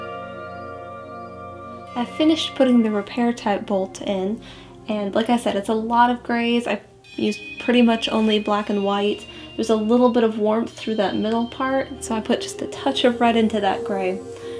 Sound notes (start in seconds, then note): none